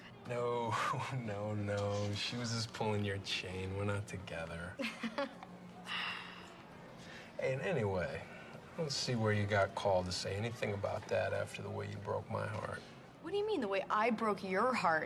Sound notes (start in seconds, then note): 4.8 laughs